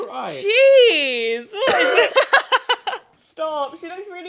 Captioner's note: coughing